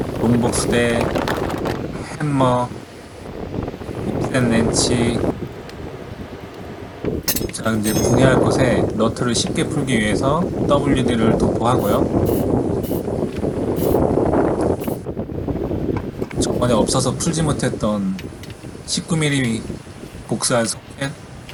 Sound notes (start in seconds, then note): 13.9 now typhoon incoming, the wind sound is recorded